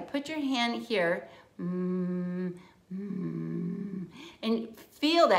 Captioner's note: humming